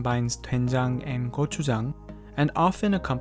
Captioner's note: speaking in Korean language